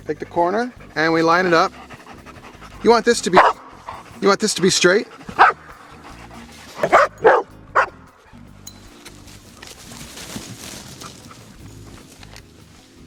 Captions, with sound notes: Take the corner and we line it up. You want this to be straight. (dogs barking)